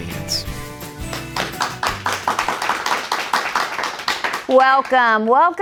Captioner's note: applause